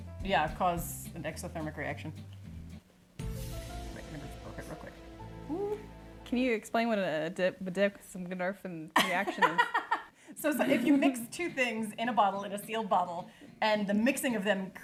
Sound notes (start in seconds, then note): 3.2 tense music; 10.4 laughs